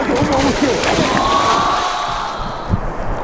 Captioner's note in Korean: 첨벙